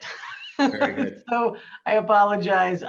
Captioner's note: laughs